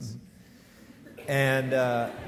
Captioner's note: audience laughing